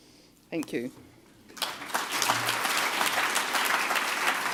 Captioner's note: applauding